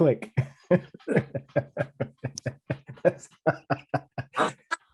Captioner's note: both laughing